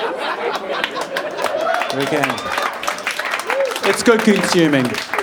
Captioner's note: audience laughing; audience clapping and cheering